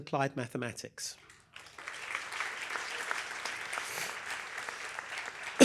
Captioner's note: applause